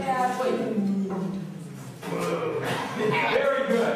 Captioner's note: laughter